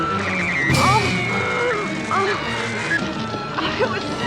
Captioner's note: Nicole groaning